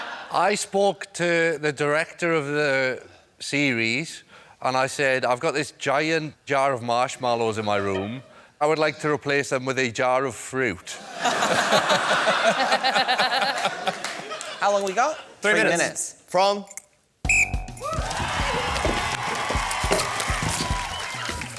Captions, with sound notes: I spoke to the director of the series, and I said, "I've got this giant jar of marshmallows in my room. "I would like to replace them with a jar of fruit." (LAUGHTER) How long have we got? Three minutes from... (BLOWS WHISTLE) (CHEERING)